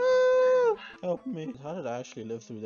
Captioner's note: screams